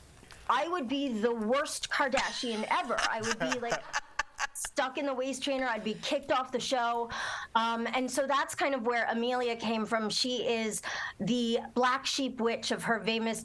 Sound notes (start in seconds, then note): 2.2 laughter